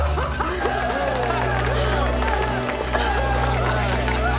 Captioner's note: cheering